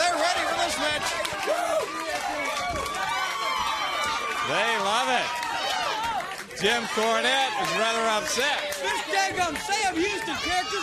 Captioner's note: crowd cheering